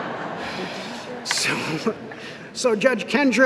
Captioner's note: laughter